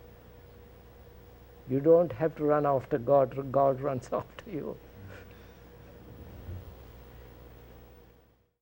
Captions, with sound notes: You don't have to run after God - God runs after you. [Laughs]